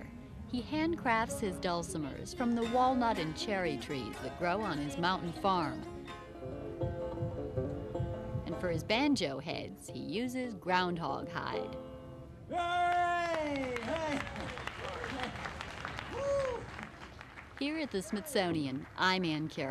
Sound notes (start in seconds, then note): 5.6 banjo music; 12.8 clapping